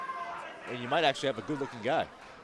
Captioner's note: crowd chatter